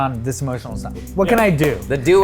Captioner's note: hands clapping